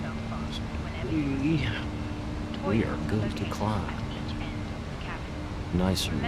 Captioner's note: radio chatter